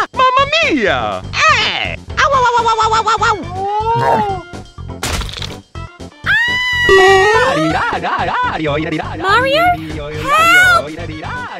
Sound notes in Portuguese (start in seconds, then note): 6.4 gritando dnovo -_